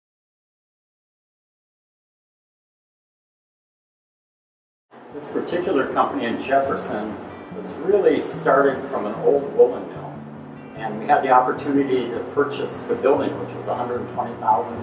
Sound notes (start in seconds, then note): 0.0 silence